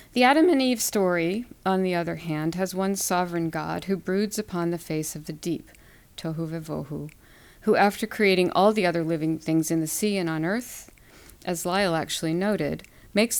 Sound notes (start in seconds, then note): 6.3 non-english